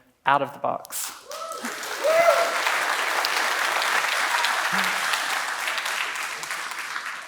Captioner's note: claps and cheers